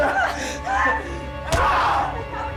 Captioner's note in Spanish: Gritos